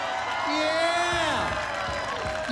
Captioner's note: applause